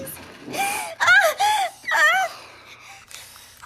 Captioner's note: Holly cries